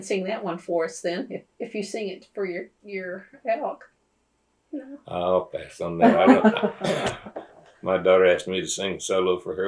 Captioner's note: laughter